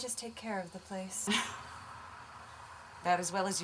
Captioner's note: chuckling